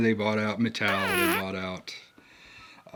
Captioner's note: whoopie cushion sound effect